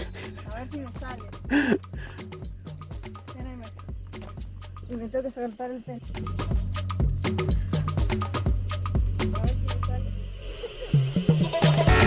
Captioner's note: laughs